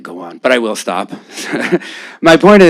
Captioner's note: laughter